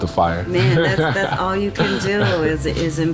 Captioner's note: laughing